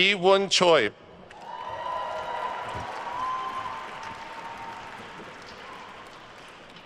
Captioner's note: attendees cheering and applauding